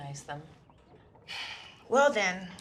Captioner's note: sighs